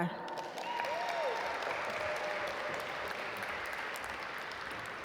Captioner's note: audience applaud